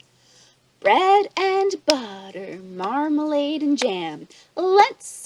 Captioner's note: chanting